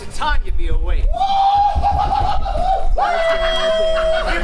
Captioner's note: howls; Puck hooting